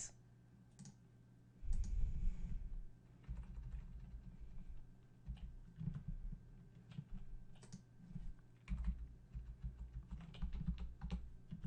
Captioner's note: typing